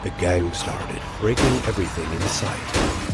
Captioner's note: bashing sound